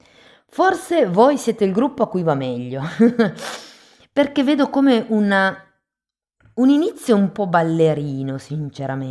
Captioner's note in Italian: risate